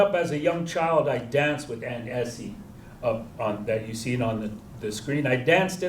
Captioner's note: non-english